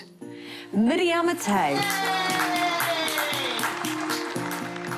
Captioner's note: cheers and applause